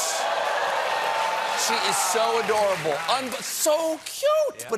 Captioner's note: cheering